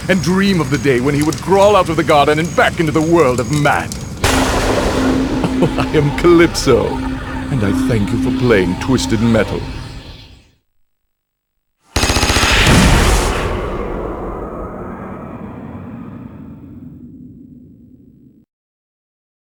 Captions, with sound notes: and dream of the day when he would crawl out of the garden and back into the world of man! [Thunder] I am Calypso, and I thank you for playing Twisted Metal.